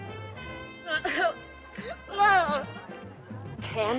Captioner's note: sniveling